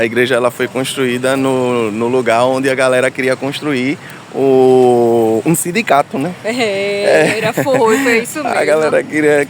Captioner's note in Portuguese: risadas